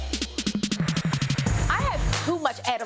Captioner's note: exhales tensely